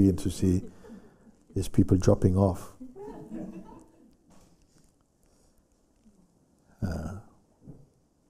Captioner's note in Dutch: gelach